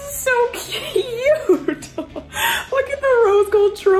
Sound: laughs

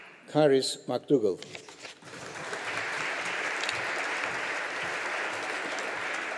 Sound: audience applauding

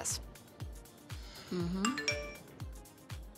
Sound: phone chimes

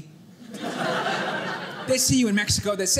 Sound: audience laughing

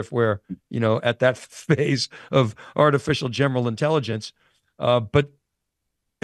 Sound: chuckles

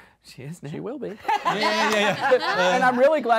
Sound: all laughing

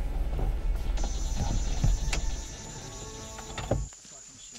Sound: cicadas chirping

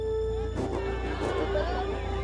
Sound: crowd talking

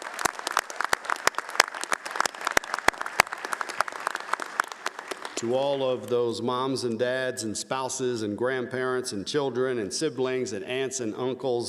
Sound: applause

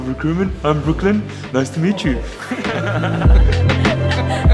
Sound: laughs

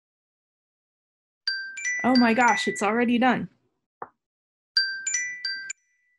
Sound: alarm Rings

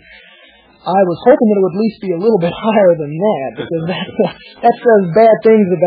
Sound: laughs

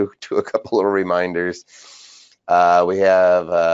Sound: chuckling

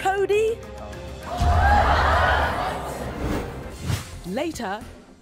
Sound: audience gasps; voiceover

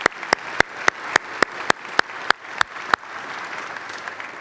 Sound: clapping

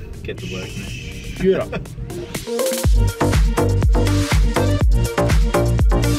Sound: laughs

